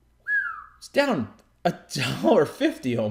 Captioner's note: whistling